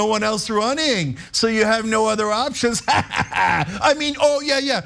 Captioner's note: laugh